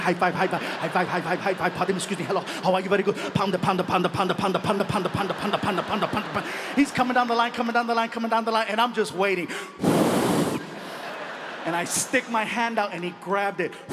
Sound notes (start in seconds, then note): 9.7 audience laughs; 9.8 blows